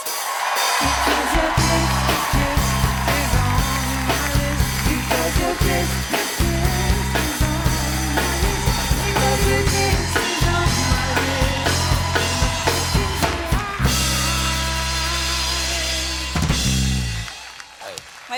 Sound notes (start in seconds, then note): 8.3 applause